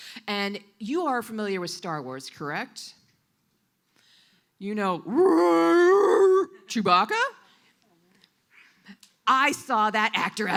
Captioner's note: Wookiee roar